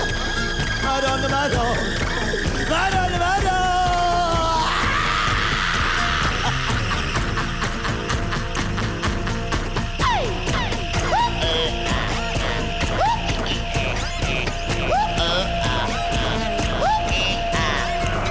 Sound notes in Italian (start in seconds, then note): 4.3 canticchia